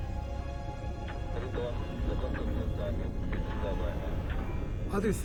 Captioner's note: man speaking in foreign language